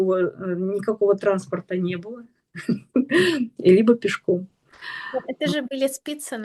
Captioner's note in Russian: смех